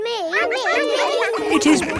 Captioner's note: all laughing